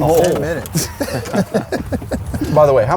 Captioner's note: laughs